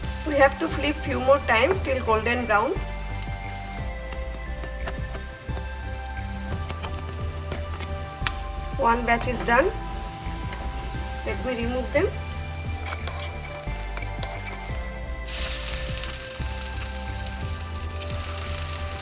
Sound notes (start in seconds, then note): 4.2 strainer scraping; 12.6 strainer scraping; 15.3 batter frying